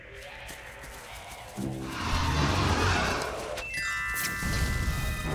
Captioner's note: roars